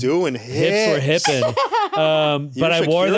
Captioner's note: laughs